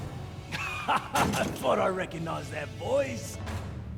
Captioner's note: laughs